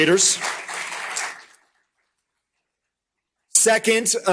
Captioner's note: applause